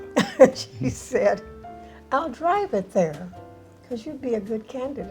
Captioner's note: laughs